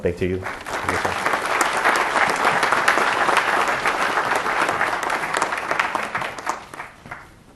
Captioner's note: applause